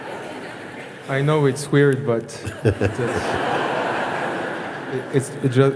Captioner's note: laughter